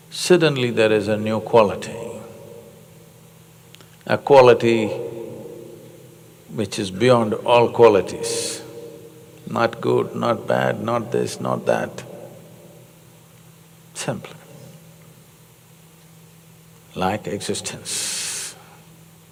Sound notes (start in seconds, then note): none